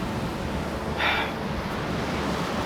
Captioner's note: sigh